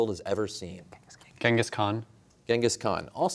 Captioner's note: whispering